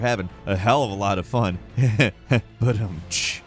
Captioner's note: chuckles